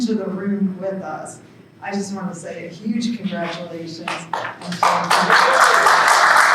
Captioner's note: applause